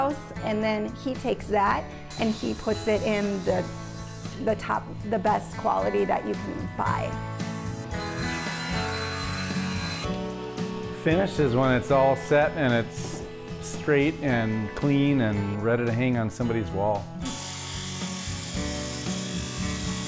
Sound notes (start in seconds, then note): 7.1 saw whirring; 17.2 tool buzzing